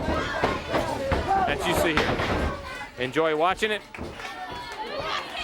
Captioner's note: crowd chatter